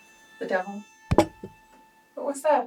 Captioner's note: scoffs; object clunks